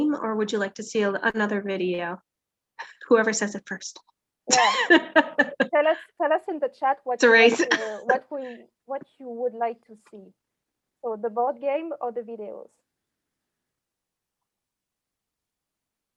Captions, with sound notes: or would you like to see another video? Whoever says it first. - Yes. (laughing) Tell us in the chat... - It's a race. - ...what you would like to see, so the board game or the videos.